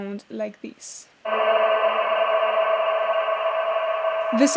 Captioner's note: droning echo